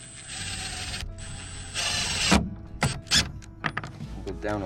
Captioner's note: drill whirring